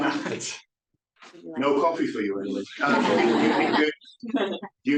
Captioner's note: audience laugh